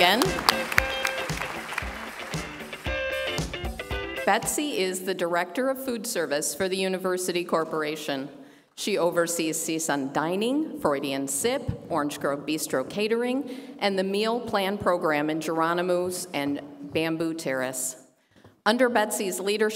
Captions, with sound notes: [APPLAUSE] WHICH SOME OF YOU MIGHT KNOW AS BETSY CORRIGAN. BETSY IS THE DIRECTOR OF FOOD SERVICE FOR THE UNIVERSITY CORPORATION.